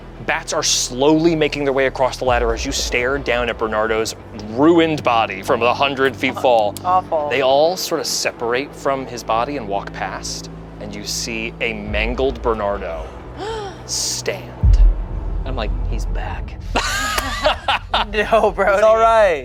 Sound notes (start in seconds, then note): 16.7 everyone laughs